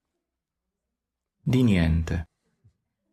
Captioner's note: ndt, in francese